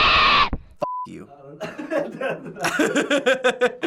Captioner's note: FBE laughs; laughs